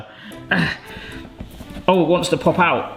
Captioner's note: playful music; grunting